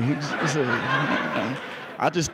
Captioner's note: laughing